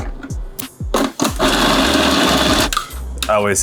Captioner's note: food processor whirring